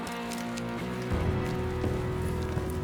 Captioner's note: camera shutters clicking; ominous rock music